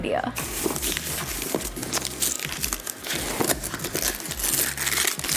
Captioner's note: wrapper crinkling